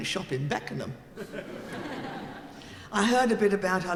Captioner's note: audience laughing